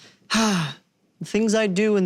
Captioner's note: sighing